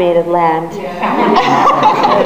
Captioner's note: audience laughs